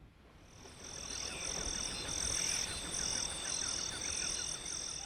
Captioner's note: crickets chirping